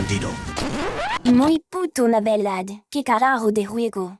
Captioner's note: Spanish